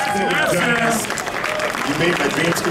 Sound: audience clapping

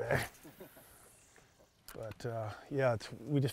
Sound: chuckling

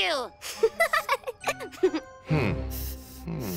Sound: Cavu laughs

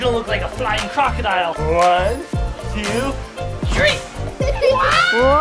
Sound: giggles

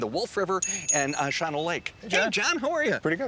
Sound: bell dinging

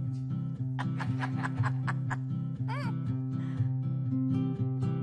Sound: laughs

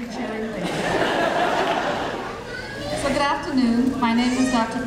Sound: audience laughing

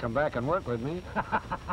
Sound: laughter

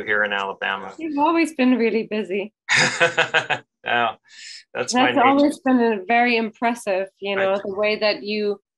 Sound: laughs

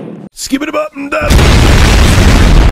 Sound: explosion

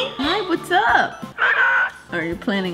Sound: bird caws

